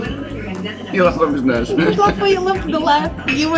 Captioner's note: laughs